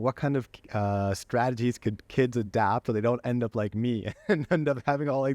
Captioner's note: laughter